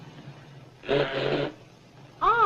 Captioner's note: blows nose